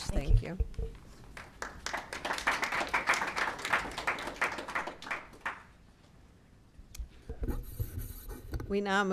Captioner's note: applause